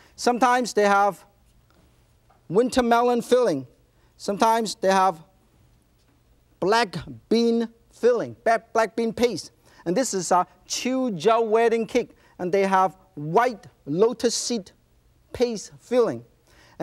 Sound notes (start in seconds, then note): 10.4 speaking in foreign language